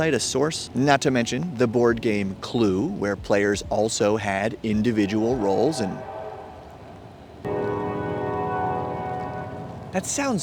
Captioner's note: train sounds